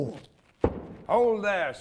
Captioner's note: banging